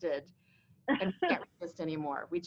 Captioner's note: laughing